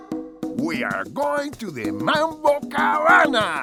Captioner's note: foreign language